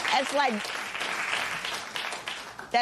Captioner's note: applause